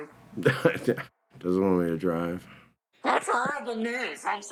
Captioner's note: chuckles